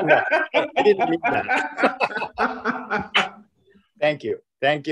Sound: laughing

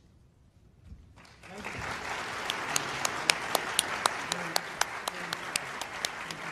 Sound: applause

